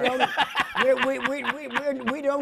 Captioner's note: laughs